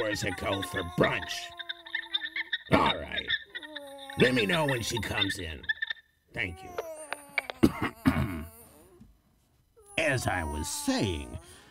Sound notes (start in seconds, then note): 7.4 ahem